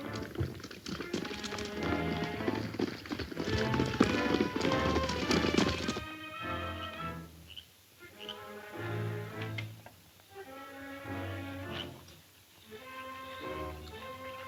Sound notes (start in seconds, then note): 0.0 horse hoof beats; 3.7 dramatic music